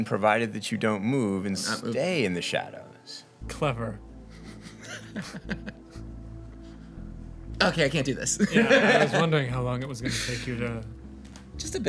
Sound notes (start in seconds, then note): 4.3 laughs; 8.3 men laugh